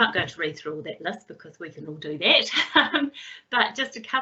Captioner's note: laughs